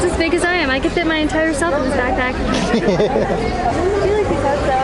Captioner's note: laughing